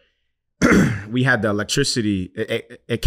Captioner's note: clears throat